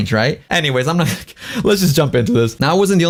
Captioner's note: laughs